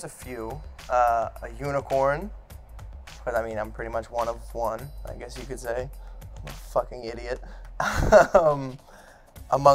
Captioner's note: laughs